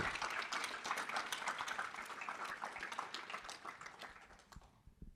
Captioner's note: audience applauding